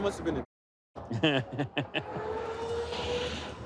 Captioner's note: laughs